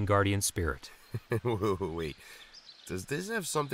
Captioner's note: laughs